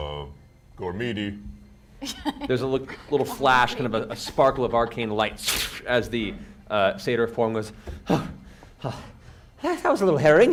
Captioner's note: breathes heavily